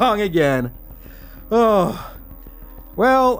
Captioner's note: ugly Sigh